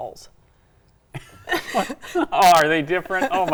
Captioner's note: both laughing